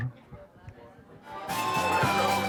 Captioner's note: general chatter; upbeat music